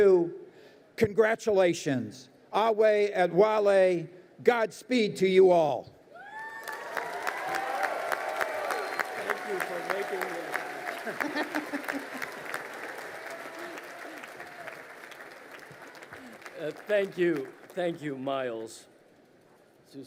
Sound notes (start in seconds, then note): 6.2 crowd cheering and applauding; 11.0 woman laughs